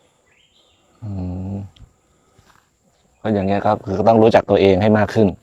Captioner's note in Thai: เสียงสูดหายใจ